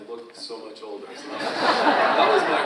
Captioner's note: audience laughs